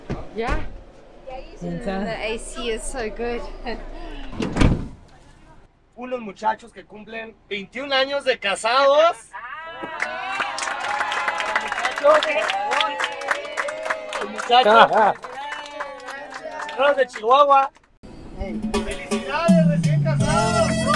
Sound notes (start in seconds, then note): 9.9 applause